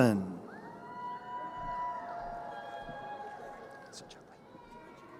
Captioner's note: crowd cheering